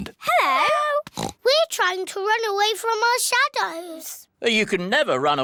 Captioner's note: oinks